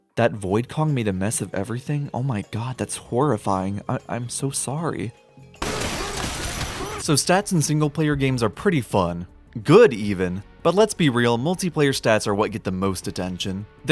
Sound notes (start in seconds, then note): 5.6 loud smashing